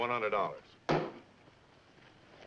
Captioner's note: bang